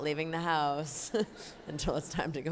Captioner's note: laughs